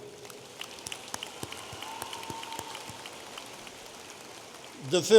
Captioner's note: audience applauding